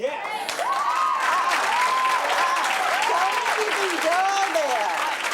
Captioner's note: audience agreeing, cheering